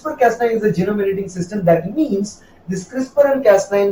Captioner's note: Arabic